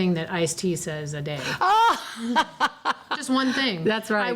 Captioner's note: laughs